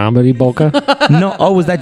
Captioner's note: laughs